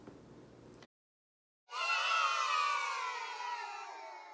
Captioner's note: kids booing bc i suck